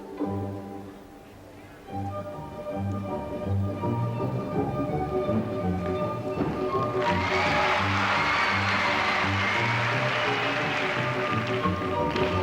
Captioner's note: applause